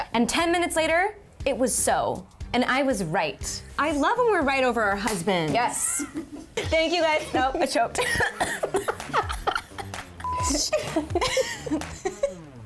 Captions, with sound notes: - And ten minutes later, it was so and I was right. I love when we're right over our husbands. Thank you guys, oh I choked (coughing) (laughing)